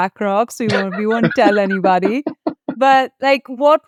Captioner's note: laughing